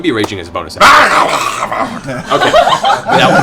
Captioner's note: incoherent rage shouting